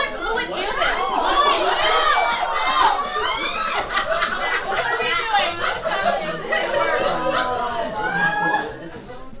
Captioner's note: audience laughs